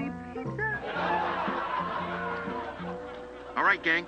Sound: laughter

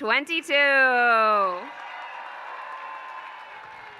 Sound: applause

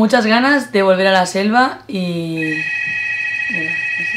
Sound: phone rings

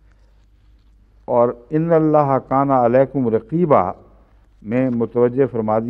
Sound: Arabic

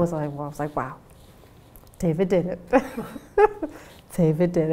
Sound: laughs

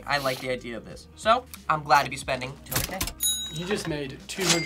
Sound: register dings

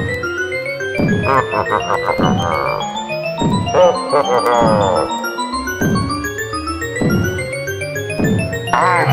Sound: Wario chomping and letting out low-pitched laughs

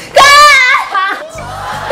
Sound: screams

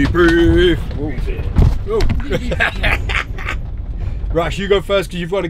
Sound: laughs

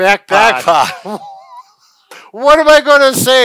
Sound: laughing

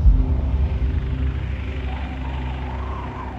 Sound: blowing wind

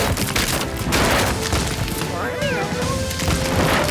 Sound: meowing

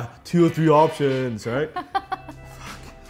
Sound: laughs

